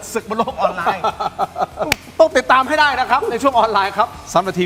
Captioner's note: laughs